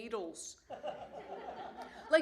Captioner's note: laughter